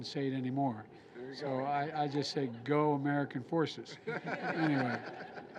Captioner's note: laughter